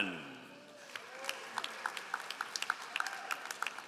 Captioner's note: all applauding